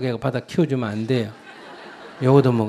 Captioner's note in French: rire du public